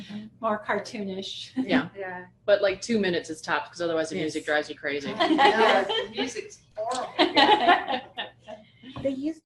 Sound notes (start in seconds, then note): 7.0 laughter